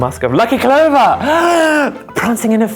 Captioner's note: gasps